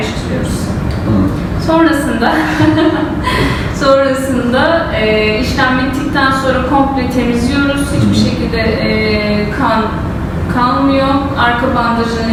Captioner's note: chuckles